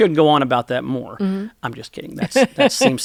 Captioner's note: laughter